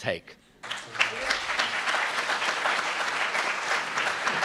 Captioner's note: applauds